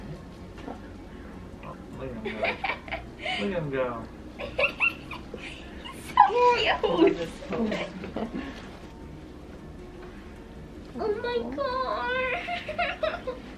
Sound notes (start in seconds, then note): 2.4 laughing